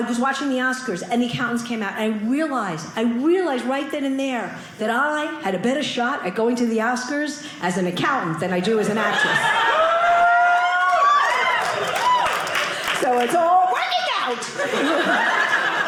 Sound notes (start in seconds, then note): 9.5 audience cheering